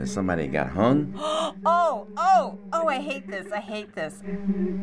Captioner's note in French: halète